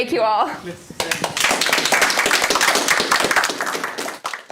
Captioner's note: audience applause